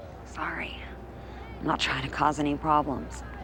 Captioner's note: women cheering